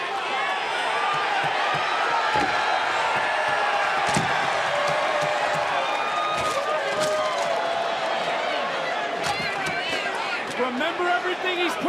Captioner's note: crowd cheers